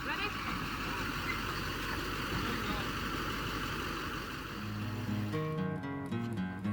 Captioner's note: truck engine humming; slow guitar music